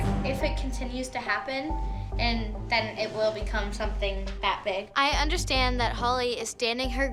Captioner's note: none